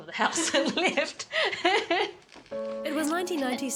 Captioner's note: laughing